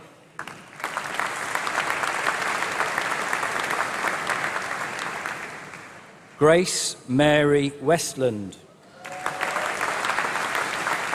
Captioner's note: applause